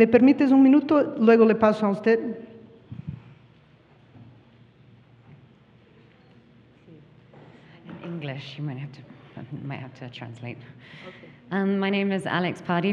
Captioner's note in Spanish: habla en inglés